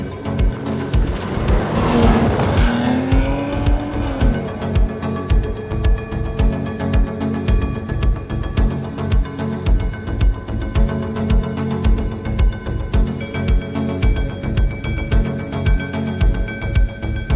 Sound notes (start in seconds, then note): 0.5 speeding engine; 2.5 excelerating